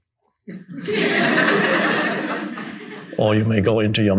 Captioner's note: audience laughing